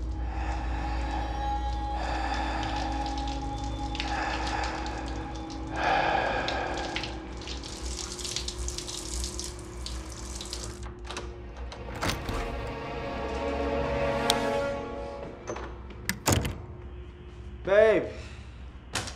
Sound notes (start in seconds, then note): 0.0 heavy breathing; 0.1 ominous music; 10.7 suspenseful music; 10.9 door unlocks; 14.2 light switch